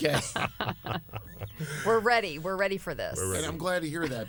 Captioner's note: laughter